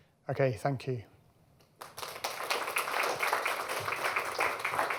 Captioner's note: applause